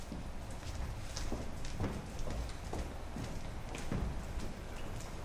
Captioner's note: footsteps pattering